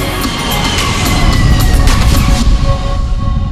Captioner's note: airplane engine